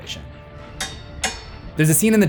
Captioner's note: pitchfork clangs